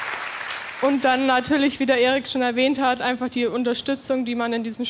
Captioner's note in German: Applaus